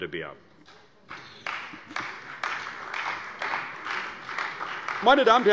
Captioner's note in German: Beifall bei der CDU und dem BÜNDNIS 90/DIE GRÜNEN